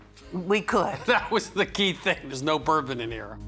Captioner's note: laughing